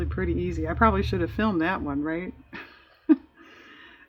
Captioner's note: laughs